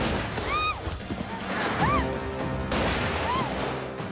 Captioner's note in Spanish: Disparos; Gritos de Mecha